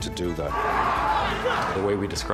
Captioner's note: screaming